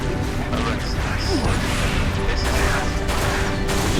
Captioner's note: radio